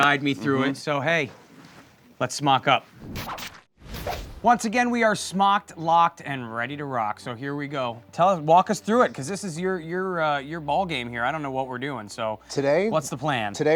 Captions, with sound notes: But you're gonna guide me through it, so hey. Let's smock up. (whip swooshing) Once again we are smocked, locked and ready to rock, so here we go. Walk us through it 'cause this is your ballgame here. I don't know what we're doin', so what's the plan?